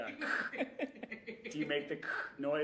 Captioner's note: all laughing